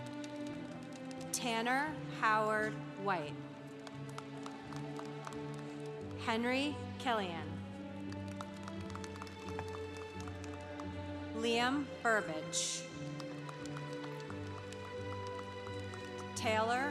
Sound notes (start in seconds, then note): 3.7 congregation applauding; 8.0 congregation applauding; 13.0 congregation applauding